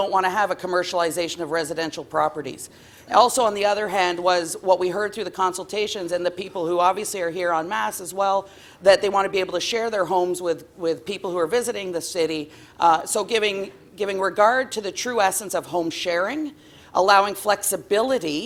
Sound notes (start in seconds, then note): none